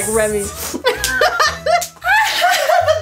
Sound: laughs

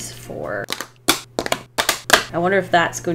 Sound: knives slapping on desk

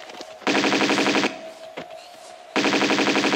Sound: bratatatatata

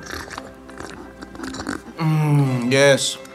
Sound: Jordan slurping

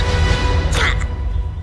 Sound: Wicket grunts

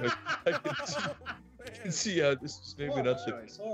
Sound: laugh

